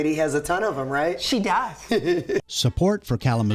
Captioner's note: laughing